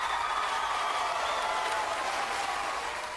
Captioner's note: applause